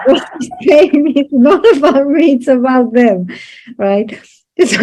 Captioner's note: laughs